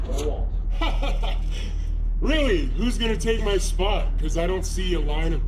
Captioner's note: laughs